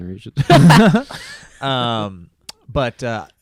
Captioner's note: laughs